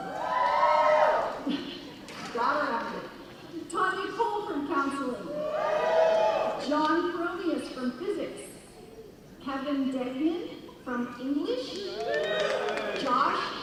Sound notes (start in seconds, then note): 0.0 cheering; 1.6 laughing; 5.3 cheering; 11.8 cheering